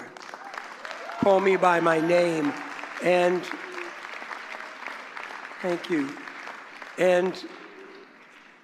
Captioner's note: applause